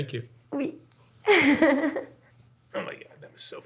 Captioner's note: laughs